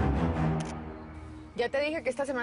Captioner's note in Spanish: Clic de la cámara